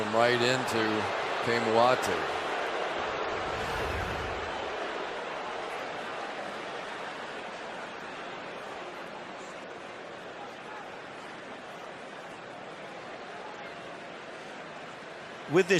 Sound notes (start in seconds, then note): 2.4 crowd clamoring